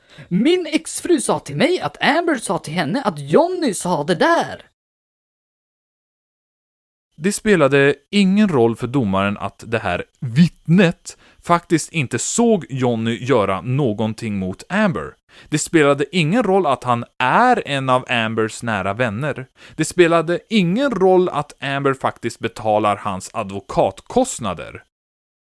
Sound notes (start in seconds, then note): 4.9 awkward silence